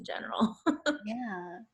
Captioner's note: laughs